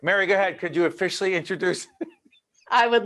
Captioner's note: laughing